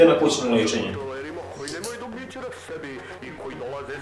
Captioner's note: from TV